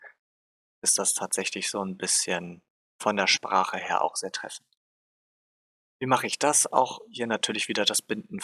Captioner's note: in Germanlanguage